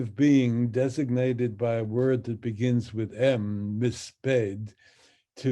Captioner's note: speaks in Hebrew